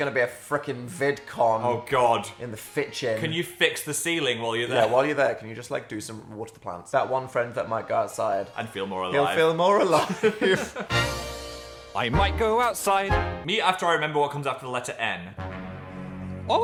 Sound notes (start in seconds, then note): 9.8 Dan and Phil laughing